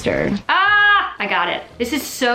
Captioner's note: exclaims